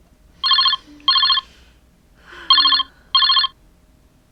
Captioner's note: phone ringing